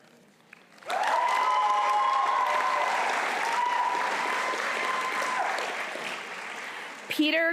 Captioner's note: applause